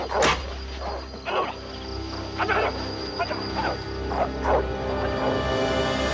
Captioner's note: dogs Barking; Shouting In Korean; barking Continues